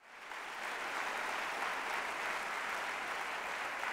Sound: applause

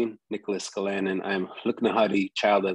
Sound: speaks in indigenous language

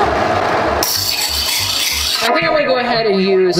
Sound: loud scarping sound

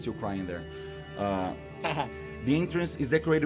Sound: laughs

